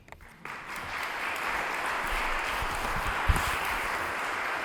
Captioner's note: audience applauding